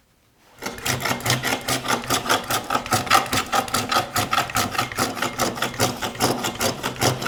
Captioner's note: blade on wood continues rhythmic scraping